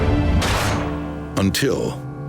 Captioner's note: metal snapping